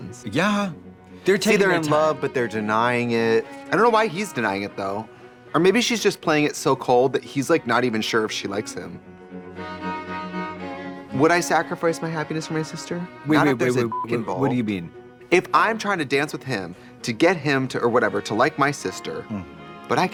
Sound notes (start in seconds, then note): 9.5 classical music; 13.8 beep